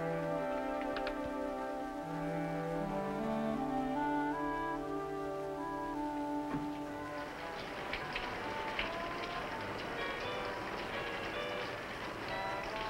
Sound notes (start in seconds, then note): 8.2 rain falling